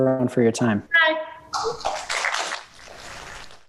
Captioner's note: class Applause